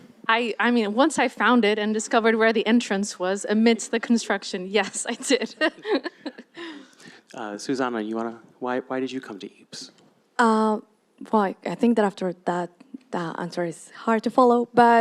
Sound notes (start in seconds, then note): 5.3 laughs